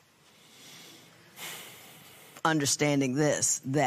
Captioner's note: sighs